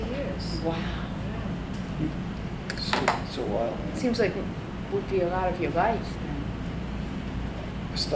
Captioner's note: chuckles